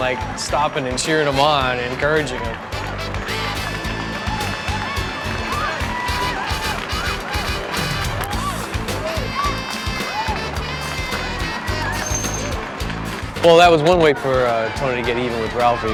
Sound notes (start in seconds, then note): 3.1 crowd cheering